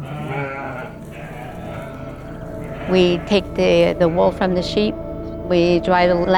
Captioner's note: desert day sound, wind gust and sheep bleating